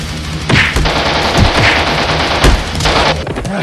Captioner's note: sounds of a submachine gun, sword blows and metal music